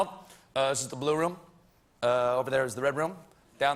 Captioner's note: as obama